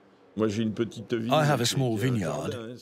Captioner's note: speaking in foreign language